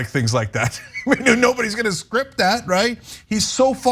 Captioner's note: laugh